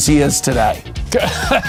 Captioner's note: laughs